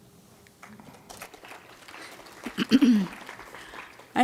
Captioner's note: applause